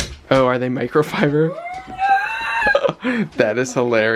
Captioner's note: squeals